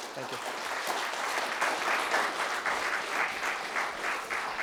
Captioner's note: applause